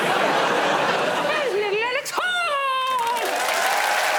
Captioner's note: in a high-pitched voice